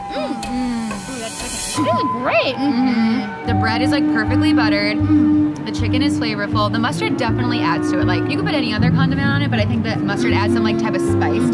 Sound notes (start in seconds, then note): 1.8 girls agreeing